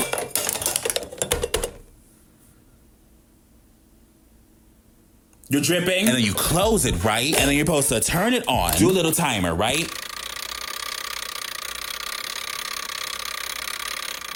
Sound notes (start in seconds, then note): 0.0 metal parts clanging; 11.1 mechanism clicking